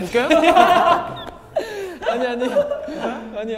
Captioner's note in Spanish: Jajaja